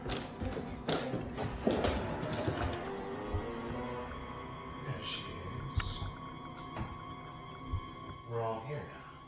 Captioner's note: ball catch